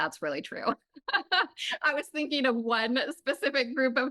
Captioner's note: laughs